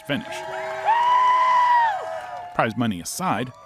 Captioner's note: crowd cheering